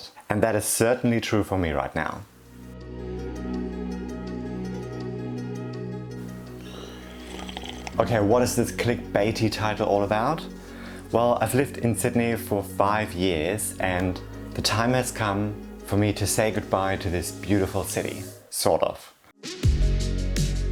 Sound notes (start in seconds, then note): 3.6 gentle music; 6.4 drink slurping